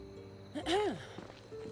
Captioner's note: clears throat